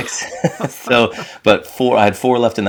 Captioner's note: both chuckling